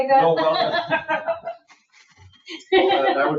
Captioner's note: laughs